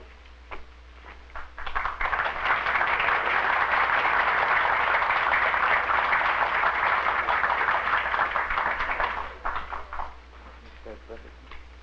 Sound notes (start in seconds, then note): 1.3 applause